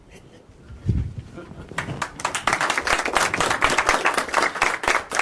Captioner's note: applause